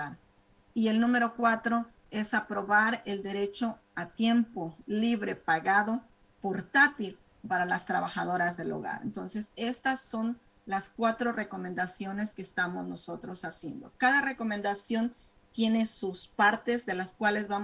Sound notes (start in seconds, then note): 2.4 speaking spanish